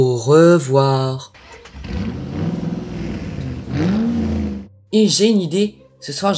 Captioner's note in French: Bruit de voiture